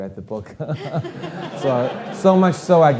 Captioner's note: audience laughing